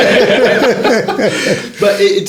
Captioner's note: laughing